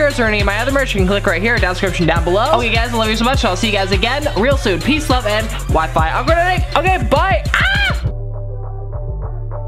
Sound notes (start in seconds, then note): 6.1 speedy vocalization; 7.5 comedic scream